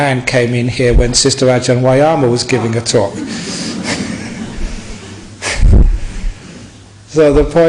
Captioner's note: laughs